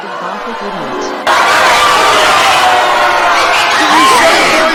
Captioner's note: student Yelling & Shouting In the Stage